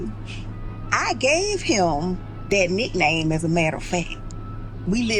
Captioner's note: ice cream truck